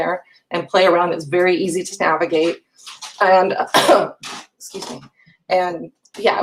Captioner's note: coughs